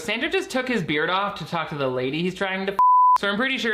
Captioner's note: beeps